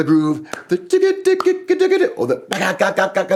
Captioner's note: imitates rhythmic groove